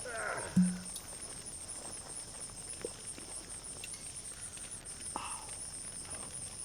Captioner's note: cork popping